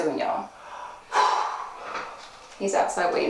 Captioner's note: Manny sighing